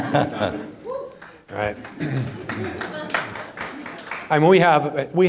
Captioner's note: audience applauding